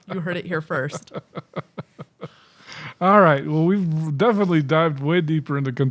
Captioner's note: chuckling